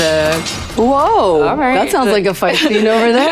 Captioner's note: metal clanking